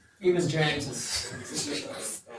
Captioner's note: laughs